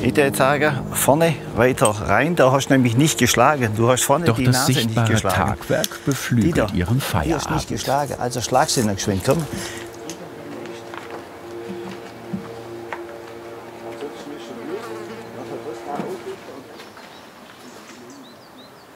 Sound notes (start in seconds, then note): 10.1 distant drone; 14.7 hum of bees; 17.6 chirping of birds